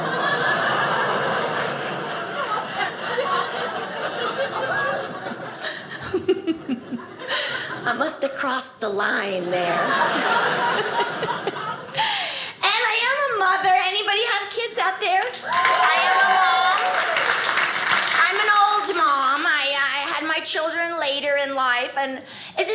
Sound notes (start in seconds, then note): 0.0 audience laughing; 9.4 audience laughing; 15.3 audience cheers